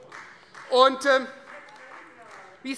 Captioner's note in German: Beifall Freie Demokraten - Zurufe